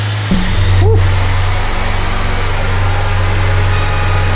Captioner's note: saw buzzing